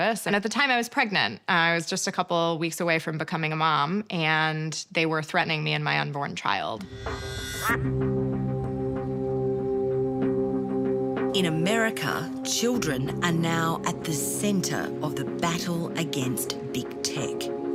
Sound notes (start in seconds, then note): 6.9 duck quacks; 6.9 tense thoughtful music